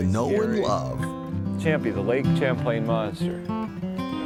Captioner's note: laughs